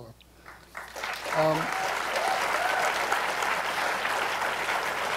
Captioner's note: applause